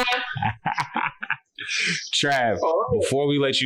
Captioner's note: laughs